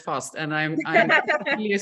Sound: laughter

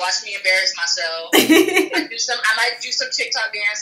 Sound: laughs

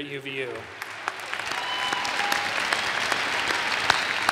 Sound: audience applause

